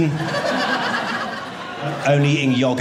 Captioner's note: audience laughing